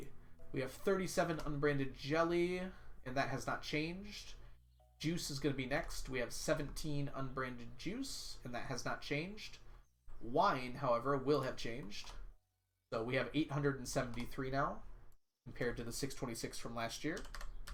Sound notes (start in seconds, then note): none